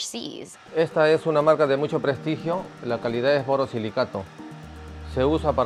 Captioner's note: speaking Spanish